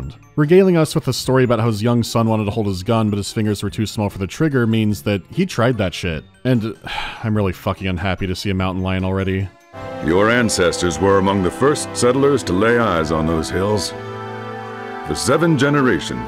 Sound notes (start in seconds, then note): 6.8 sigh